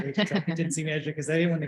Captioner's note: laughing drowns out speaker